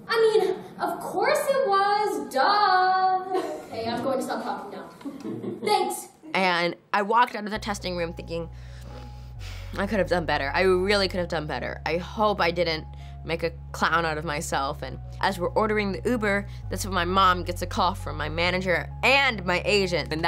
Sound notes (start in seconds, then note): 5.0 people laughing; 8.6 sighs